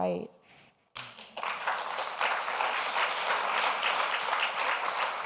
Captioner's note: audience applauds